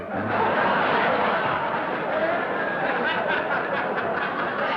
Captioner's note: laughter